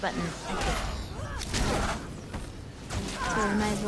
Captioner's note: gunfire